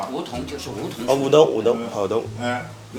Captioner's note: wu Chinese